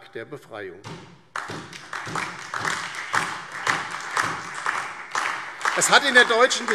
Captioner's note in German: Beifall DIE LINKE, SPD und vereinzelt BÜNDIS 90/DIE GRÜNEN